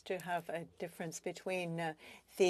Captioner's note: speaking in French